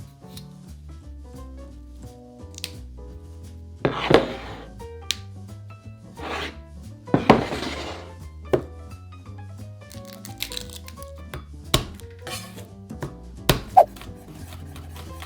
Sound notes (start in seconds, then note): 2.5 broccoli snapping; 9.9 garlic paper peeling; 11.8 knife smashing